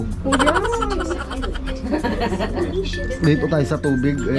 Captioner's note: laugh